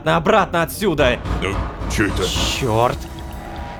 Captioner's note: knocking on the door